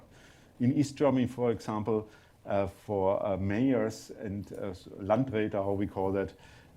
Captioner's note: german